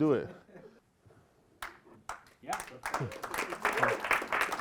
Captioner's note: applause